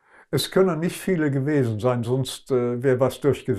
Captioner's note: none